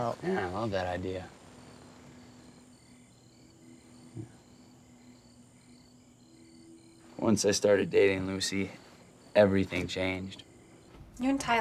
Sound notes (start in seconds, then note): 1.7 crickets chirping